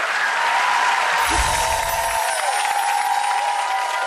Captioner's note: audience cheering; chimes ringing